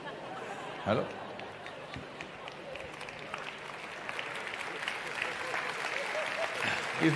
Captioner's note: laughter; laughter